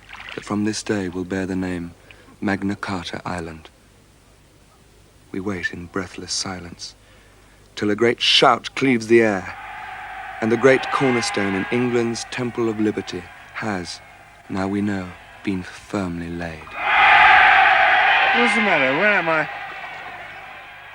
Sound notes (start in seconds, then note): 9.0 people shouting; 16.5 people rejoicing